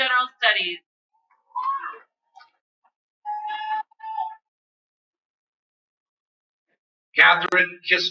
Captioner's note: cheering